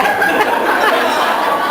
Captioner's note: laughs